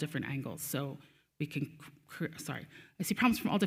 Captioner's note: stutters